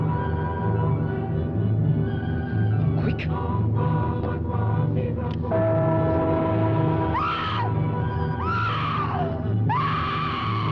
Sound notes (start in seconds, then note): 7.5 Pat screaming